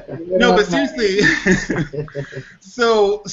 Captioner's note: laughter